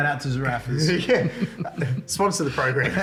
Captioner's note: laughs